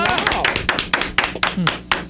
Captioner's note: clapping